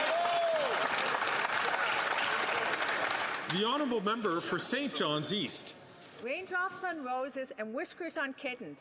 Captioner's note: some Applause